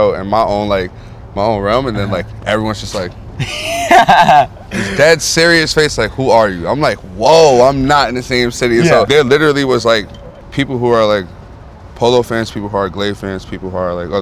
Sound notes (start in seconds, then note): 3.3 laughing